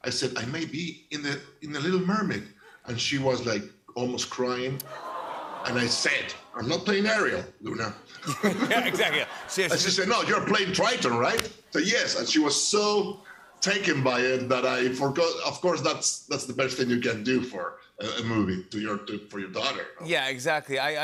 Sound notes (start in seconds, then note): 4.8 audience aws; 8.0 laughter